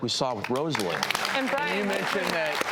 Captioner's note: audience applause